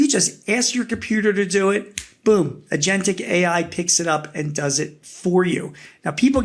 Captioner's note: snaps